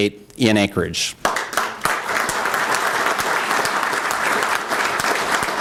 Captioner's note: applause